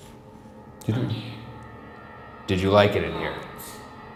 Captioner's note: automated Voice